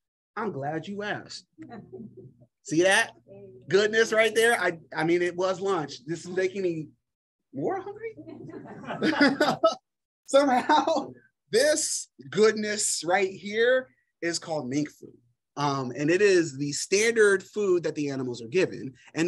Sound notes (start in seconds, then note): 8.2 laughter